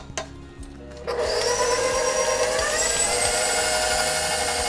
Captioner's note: mixer burrs